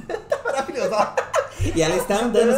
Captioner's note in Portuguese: risadas